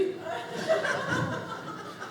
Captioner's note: audience laughing